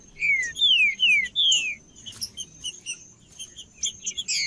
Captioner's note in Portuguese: trinca ferro cantando